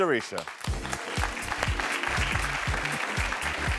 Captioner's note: audience applauding; upbeat music